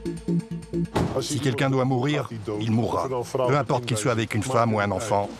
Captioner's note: Dutch spoken audio